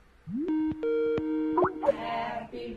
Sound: Skype ringing

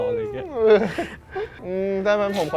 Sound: chuckles

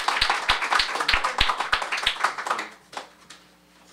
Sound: applause

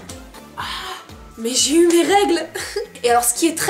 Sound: chuckles

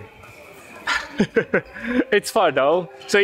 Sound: chuckles

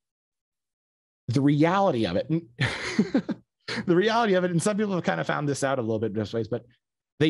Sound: laughs

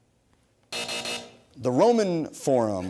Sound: buzzer sounds

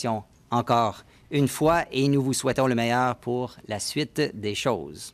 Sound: speaking French

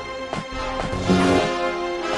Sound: lightsaber hums

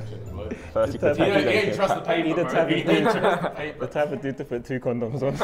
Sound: Sidemen chatting

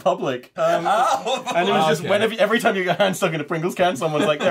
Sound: laughter

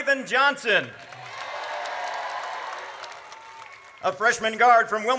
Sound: audience cheers

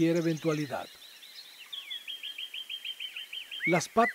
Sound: birds chirps and calls

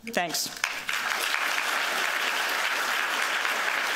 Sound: applause

